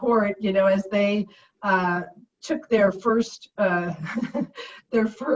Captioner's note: laughs